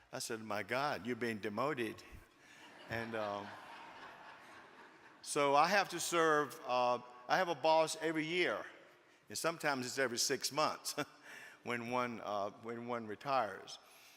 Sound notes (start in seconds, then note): 2.5 audience laughing